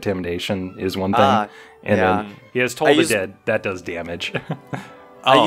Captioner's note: chuckles